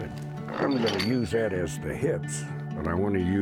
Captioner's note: metal clanking